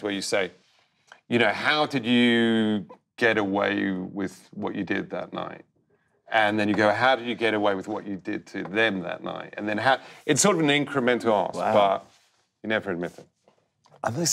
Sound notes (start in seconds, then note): none